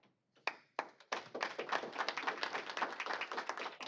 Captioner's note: applause